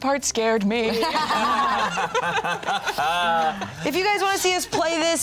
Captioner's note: all laughing